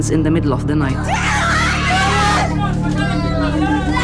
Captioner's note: screaming